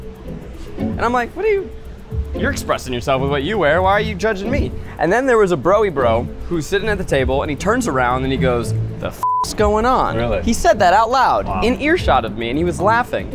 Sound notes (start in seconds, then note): 9.2 beep